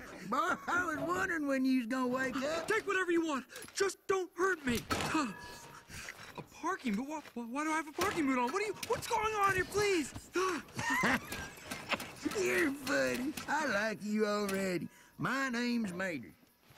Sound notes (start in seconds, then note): 0.0 chuckles; 4.9 metal clunk; 10.2 chuckles